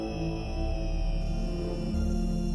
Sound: none

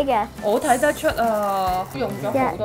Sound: brushing paper

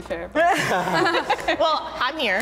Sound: all laughing

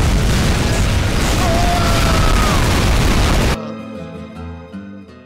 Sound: rockets firing; rockets firing and explosions; BLU Engineer Screams

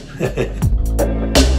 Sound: laughs

